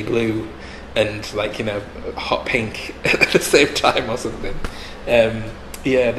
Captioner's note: laughs